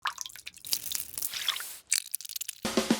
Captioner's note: meringue drips; mixture bubbles